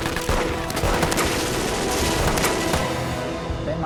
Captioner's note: shouting